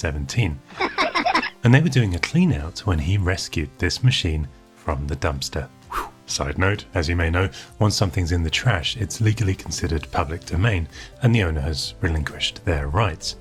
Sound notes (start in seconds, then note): 0.7 worms laugh; 5.9 whoosh